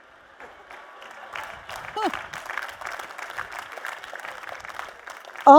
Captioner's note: applause